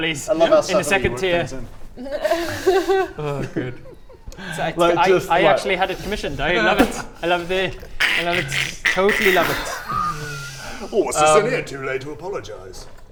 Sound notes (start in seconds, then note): 8.0 joke shoehorn noises; 10.2 winces